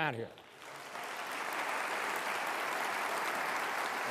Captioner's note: applause